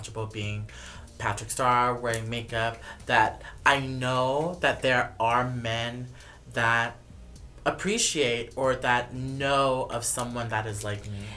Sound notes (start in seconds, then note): none